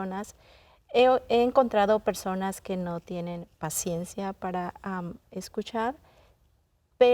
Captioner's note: continues speaking in Spanish